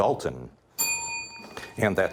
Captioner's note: bell ringing